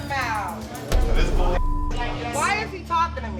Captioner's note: beep